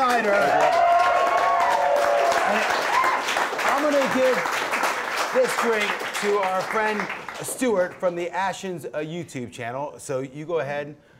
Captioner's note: applause